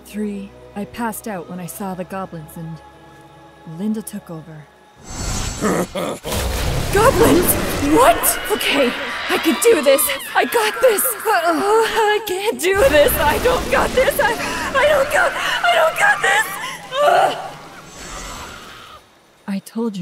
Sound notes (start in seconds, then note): 5.1 So-Ward Maiden Flashback Sounds; 5.5 goblin Laughing Sounds; 16.7 Goblins Being Eaten Sounds; 16.7 Sword Maiden Fainting Sounds